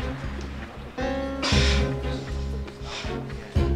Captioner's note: laughs